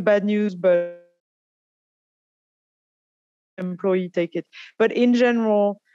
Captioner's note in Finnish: audio is cut